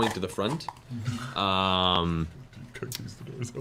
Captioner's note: laughing